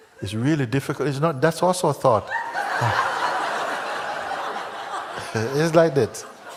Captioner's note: laughter